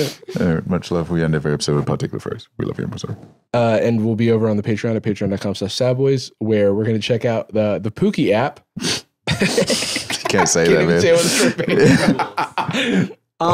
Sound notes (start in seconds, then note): 9.2 laughs